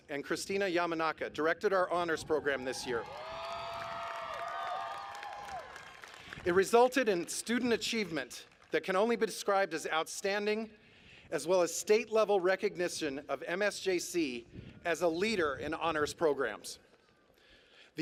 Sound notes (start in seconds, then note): 2.4 cheers